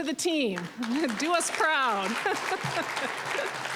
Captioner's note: applause